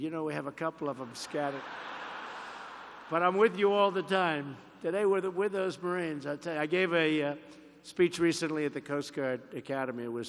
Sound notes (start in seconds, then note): 1.2 applause